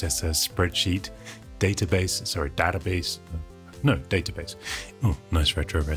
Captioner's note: American accent